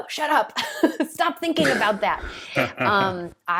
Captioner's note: laughing